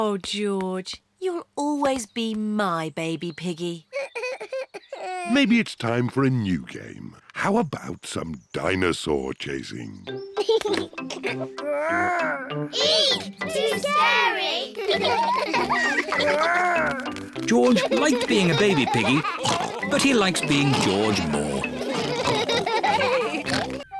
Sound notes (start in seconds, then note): 10.4 giggles; 17.3 all laugh